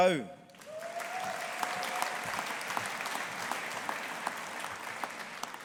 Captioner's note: audience applauding